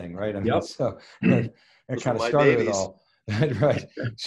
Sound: chuckles

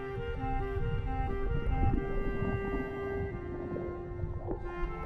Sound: water bubbling

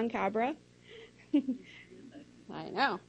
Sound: laugh

